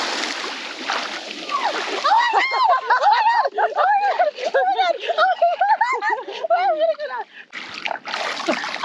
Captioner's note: screams